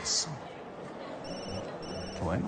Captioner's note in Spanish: Suena el celular